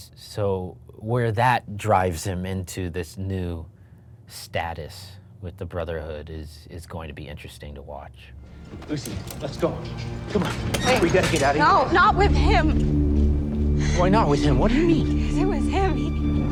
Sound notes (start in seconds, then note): 8.5 lock rattling